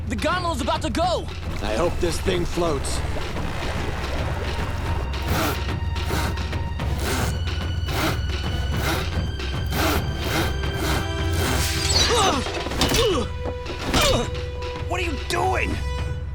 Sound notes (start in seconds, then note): 5.4 sawing